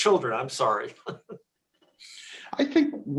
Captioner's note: chuckles